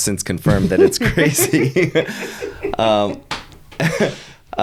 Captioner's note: laughing